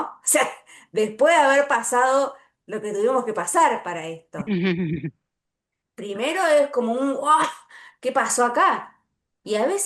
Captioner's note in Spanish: risas